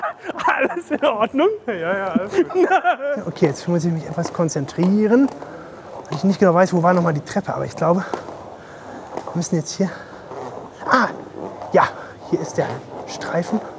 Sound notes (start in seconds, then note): 2.1 laughter